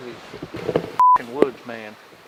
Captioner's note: beep